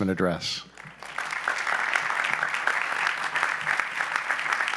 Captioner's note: applause